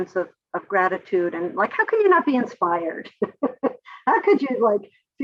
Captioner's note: laughs